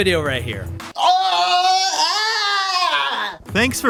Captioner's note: screams